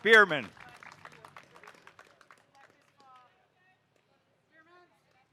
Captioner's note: audience applauding